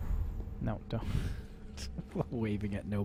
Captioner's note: chuckling